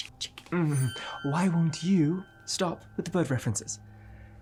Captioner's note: tense music; groans